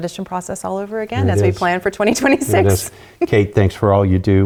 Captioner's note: happy Laughter